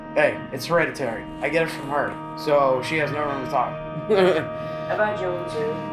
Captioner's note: laughs